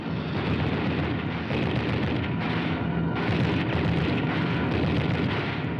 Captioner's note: machine guns blasting